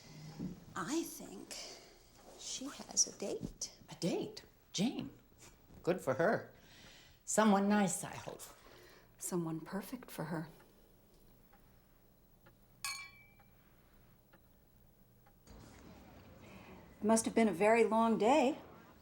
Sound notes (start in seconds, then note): 12.8 glasses clinking